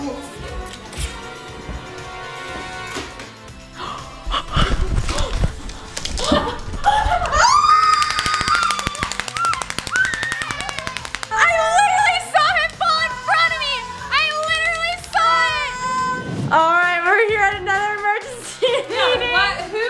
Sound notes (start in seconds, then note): 0.1 intense music; 3.7 gasps; 7.1 clapper clapping